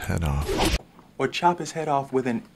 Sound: air whooshing

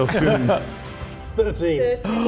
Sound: laughing

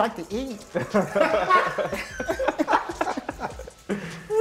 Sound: laughter

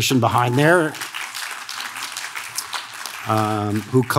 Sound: audience claps

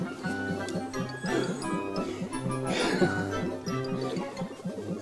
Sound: huff! Huff!

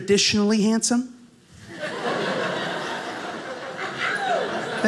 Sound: audience laughing

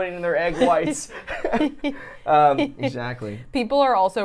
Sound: laugh

